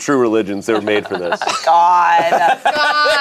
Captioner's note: group laughs